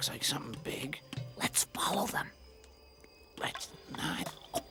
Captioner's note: whisper; Bunni, whispering; whispering; Bunni, whispering